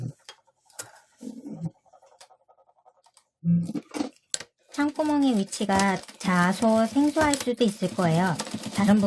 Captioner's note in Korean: 미싱소리